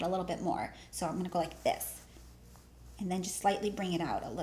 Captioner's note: cloth shuffling